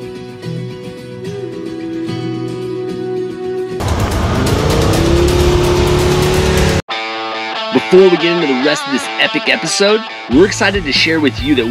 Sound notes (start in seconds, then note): 3.8 car engine roars; 6.9 upbeat music